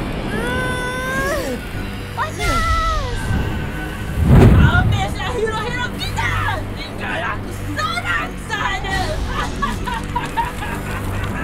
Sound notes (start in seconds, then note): 6.9 Amato straining; 9.1 Amato straining